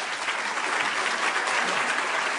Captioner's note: applause